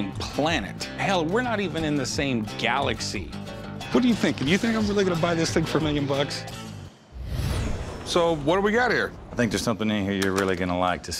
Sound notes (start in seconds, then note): none